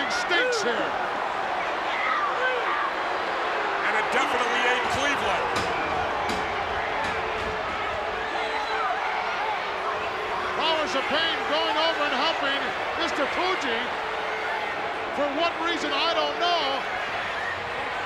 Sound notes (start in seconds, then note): 8.9 crowd roaring